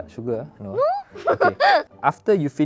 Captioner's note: laughs